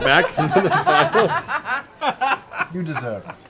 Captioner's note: laughter